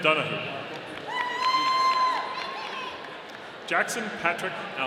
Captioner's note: audience cheering